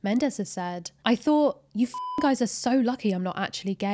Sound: beep

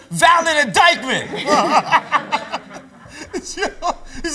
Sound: laughs

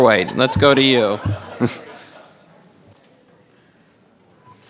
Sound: all laughing

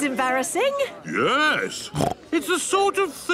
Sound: snorts

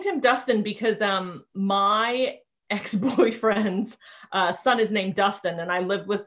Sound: chuckling

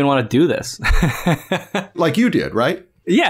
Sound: laughter

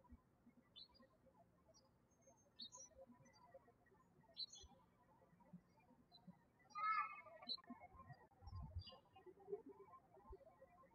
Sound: birds chirping

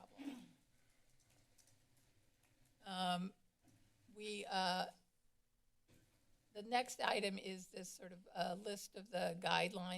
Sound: coughs

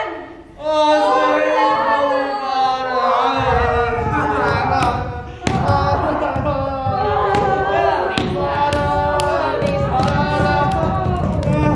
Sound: crying in anguish

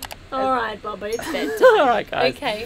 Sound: mousing clicking; laughing

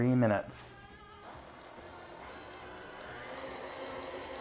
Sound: mixer whirring

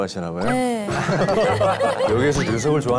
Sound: laughing

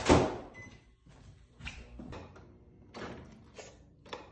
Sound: microwave on; slurping

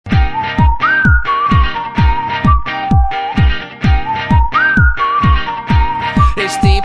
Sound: whistles

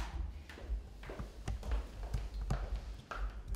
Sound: walking down steps

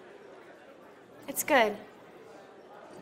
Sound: none

